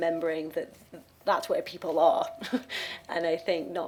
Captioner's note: she chuckles